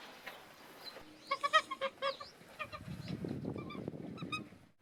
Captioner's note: goose quacking